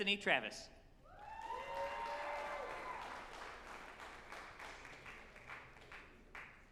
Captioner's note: group applauding and cheering